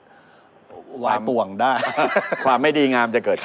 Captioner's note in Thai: หัวเราะ